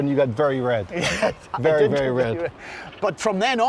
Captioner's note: laughing